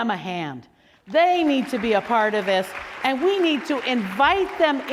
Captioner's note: applause